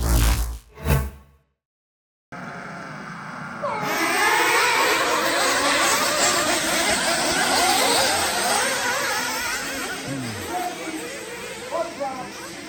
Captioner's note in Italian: engine sound